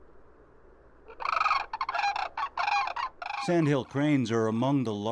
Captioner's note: bird calling